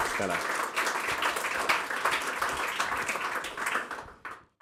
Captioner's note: applause